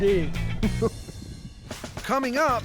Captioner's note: chuckling